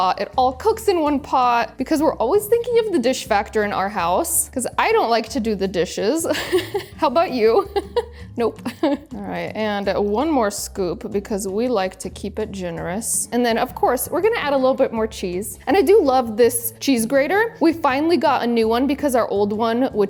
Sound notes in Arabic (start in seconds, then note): 6.3 ضحكة مكتومة; 7.5 يضحك